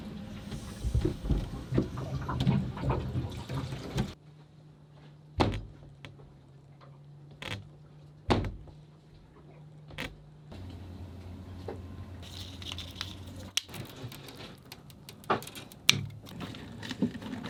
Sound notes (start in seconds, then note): 0.1 water gurgling; 5.4 door shutting; 8.3 door shutting; 14.4 scissors snipping